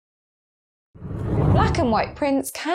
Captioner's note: whooshing air